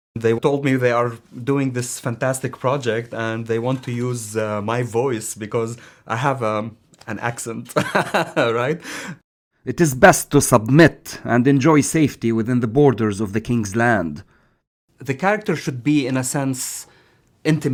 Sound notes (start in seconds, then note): 7.8 laughing